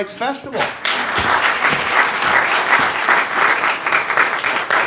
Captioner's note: audience applauding